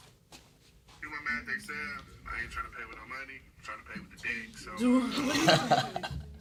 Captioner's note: phone noise